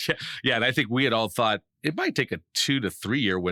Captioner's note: laughing